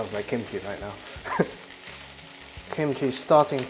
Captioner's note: chuckles